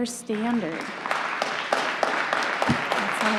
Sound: applause

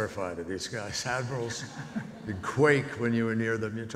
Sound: audience laughs

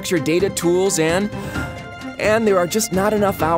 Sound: inhale

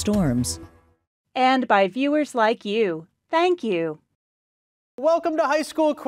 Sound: voiceover

